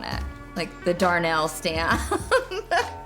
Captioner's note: laughing